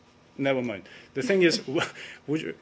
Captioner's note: laughter